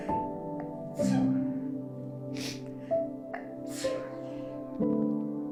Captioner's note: sneezes